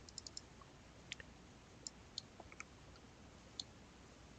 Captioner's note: mouse clicking